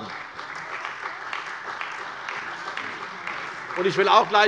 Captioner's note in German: Beifall bei der CDU und dem BÜNDNIS 90/DIE GRÜNEN